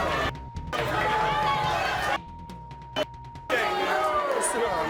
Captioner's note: audience cheers; audience boos; beep